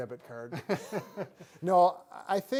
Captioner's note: both laughing